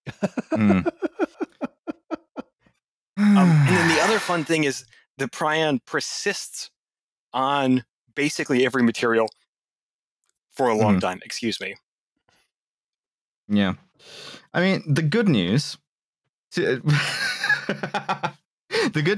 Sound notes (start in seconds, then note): 0.1 laughs; 3.2 sighs; 18.0 laughs